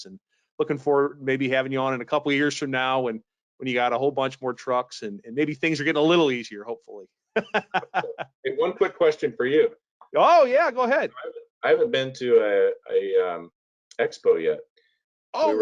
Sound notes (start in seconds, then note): 7.3 laughing